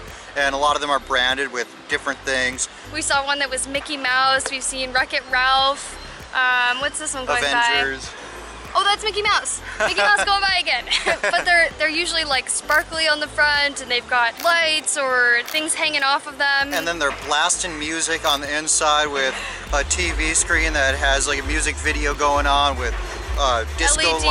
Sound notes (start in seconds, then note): 10.9 laughter